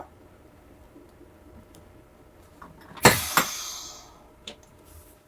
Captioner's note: bus idling